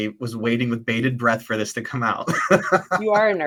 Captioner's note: laughs